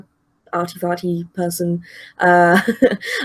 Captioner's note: chuckles